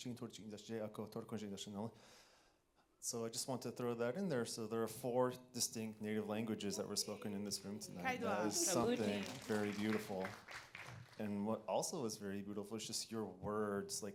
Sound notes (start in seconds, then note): 8.3 people speaking in foreign language; 10.8 audience clapping